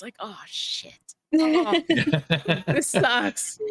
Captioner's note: everyone laughing